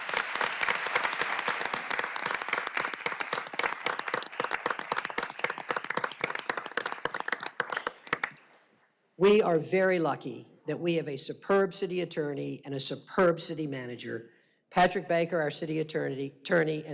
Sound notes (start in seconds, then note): 3.5 applause